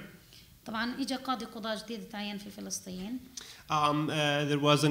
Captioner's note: speaking arabic